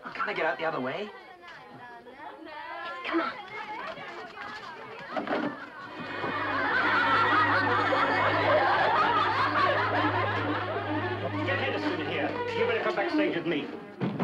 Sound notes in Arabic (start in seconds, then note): 6.7 مجموعة تضحك; 14.0 موسيقى أوركسترالية مشوقة